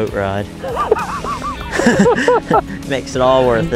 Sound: both laughing

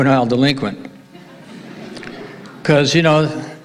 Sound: audience laughing

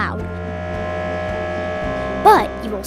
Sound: machine humming

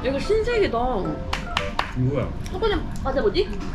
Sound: applause

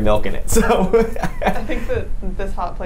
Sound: laughs

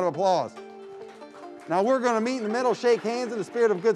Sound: crowd applauds

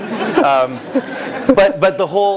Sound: laugh

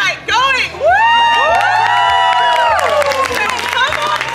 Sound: people cheering

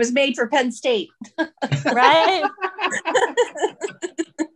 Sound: all laugh

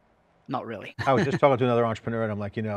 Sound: laughs

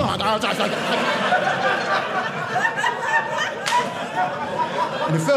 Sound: audience laughing

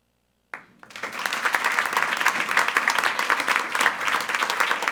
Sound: attendees applauding

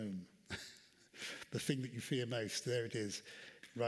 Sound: chuckles

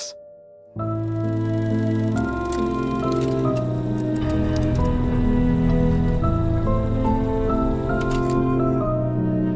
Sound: film projector running

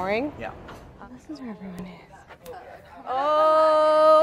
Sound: murmers

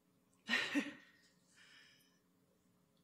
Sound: chuckles

